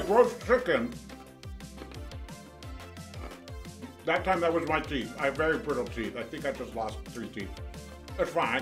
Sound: crunch noise

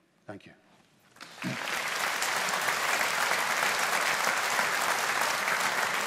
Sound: audience applauding

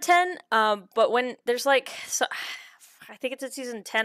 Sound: sighs while thinking

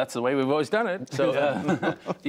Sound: laughter

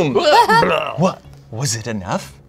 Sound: belches

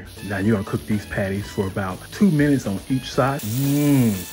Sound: sausages sizzling; moans

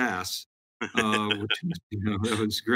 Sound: laughs

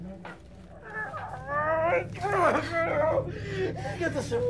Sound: Carlos grunting

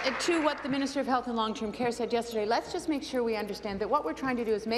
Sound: applause

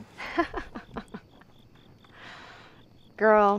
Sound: chuckle

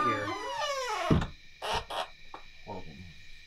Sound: door squeals closed

